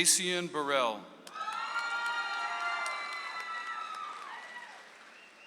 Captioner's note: audience applauds